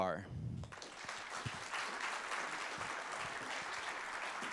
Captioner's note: applauding